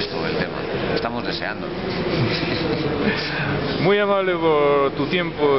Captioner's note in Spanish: Risas